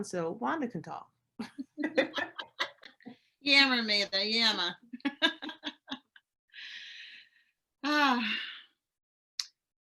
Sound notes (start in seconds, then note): 1.4 women laughing; 5.3 laughs